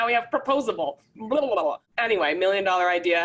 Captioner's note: speaks gibberish